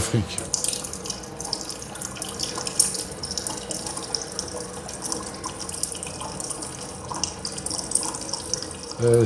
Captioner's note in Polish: odgłosy lejącej się wody